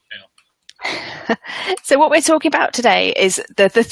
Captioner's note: audio cuts out; laughs